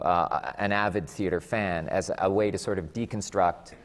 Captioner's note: none